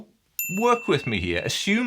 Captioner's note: bell dings